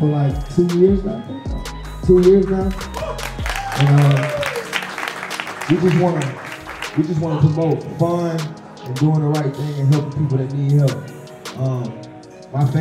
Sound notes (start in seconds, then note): 2.4 group applauding